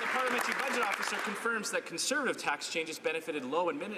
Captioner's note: some Applause